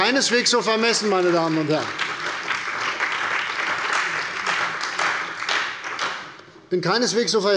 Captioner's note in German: Beifall bei der CDU und dem BÜNDNIS 90/DIE GRÜNEN